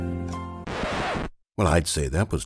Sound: record scratch

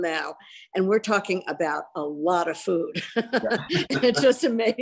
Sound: laughs

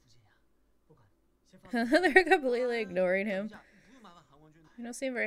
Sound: laughs

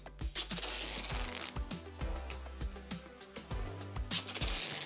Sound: pulling tape noise

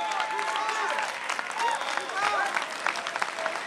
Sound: applause

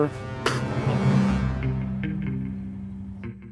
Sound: Ray spits

